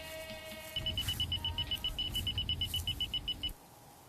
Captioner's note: machine beeping